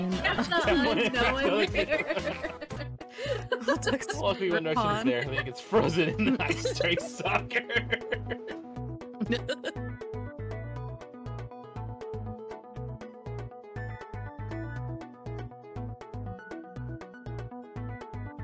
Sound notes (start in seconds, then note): 9.0 laughing